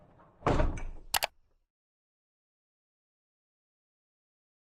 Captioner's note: click sound